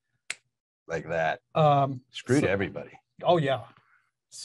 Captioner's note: snaps fingers